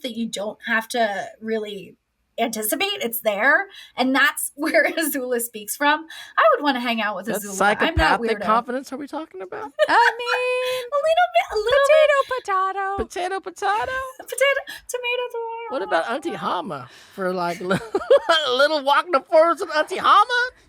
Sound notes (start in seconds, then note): 9.6 she laughs; 17.4 he laughs